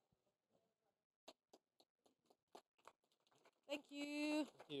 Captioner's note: applause